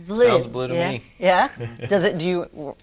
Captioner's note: chuckles